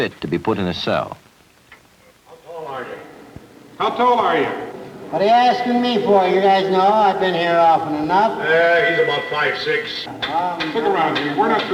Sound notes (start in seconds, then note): 4.2 shouting